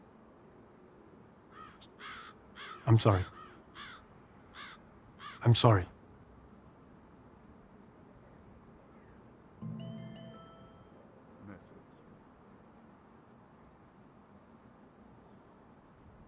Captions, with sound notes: (crows) I'm sorry. I'm sorry. (mobile bleeps - "message")